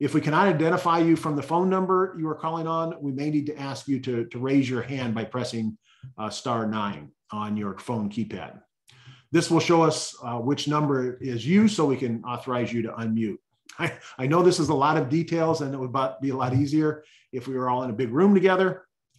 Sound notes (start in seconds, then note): 13.8 laughs